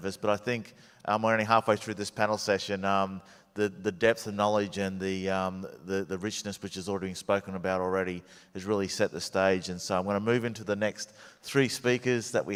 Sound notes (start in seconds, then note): none